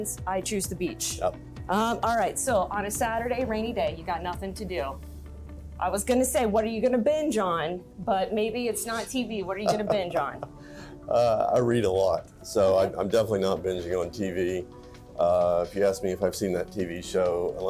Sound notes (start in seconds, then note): 9.6 laughs